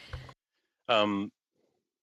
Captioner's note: speaking in French